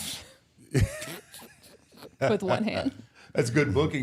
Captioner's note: all laugh